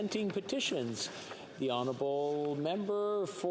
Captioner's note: speaking French